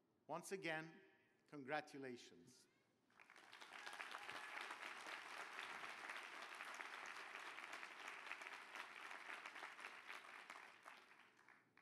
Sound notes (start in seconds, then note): 3.0 applause